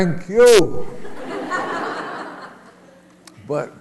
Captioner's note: laughter